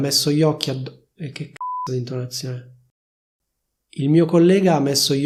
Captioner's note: beep